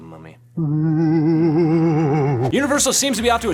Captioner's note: mummy groaning